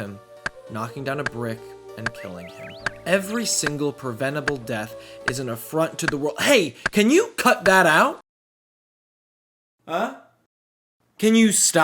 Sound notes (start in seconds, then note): 5.2 woodcutting off in distance